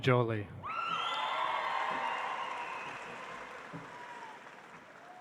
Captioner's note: audience applauds